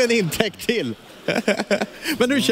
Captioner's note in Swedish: skrattar